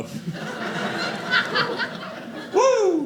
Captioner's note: audience laughing